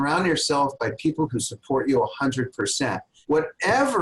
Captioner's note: laughs